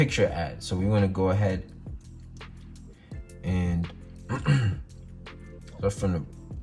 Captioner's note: clears throat